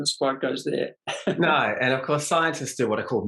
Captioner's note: laughs